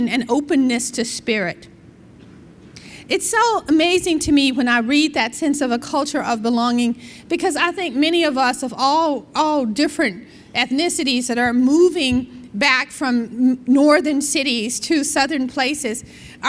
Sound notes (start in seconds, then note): none